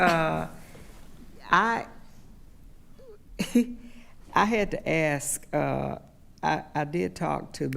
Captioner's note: chuckles